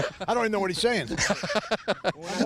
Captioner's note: laughing